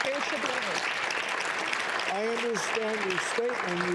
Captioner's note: audience applauding